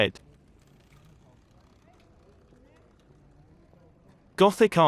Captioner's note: people chattering